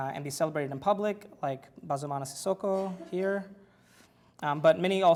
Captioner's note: foreign language